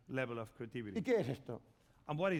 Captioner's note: speaking spanish